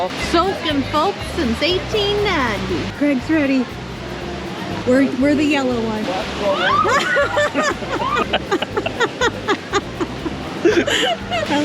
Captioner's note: laughter